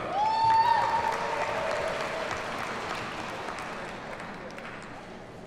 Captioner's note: audience cheers and applauds